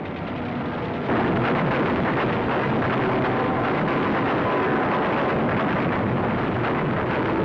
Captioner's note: gunfire